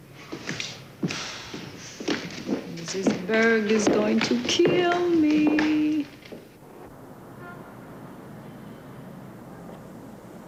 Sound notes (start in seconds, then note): 0.2 sighs; 2.1 sing-song; 8.9 horns honking in background